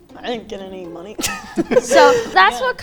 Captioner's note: laughing